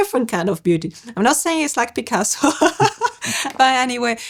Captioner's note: laughs